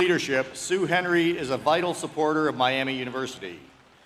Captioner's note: applause